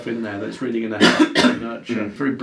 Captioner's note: coughs